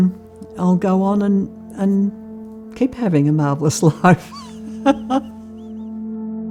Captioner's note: laughs; gentle music continues